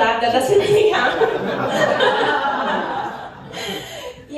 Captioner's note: laughter